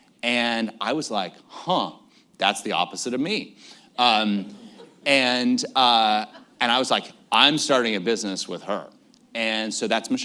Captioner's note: laughter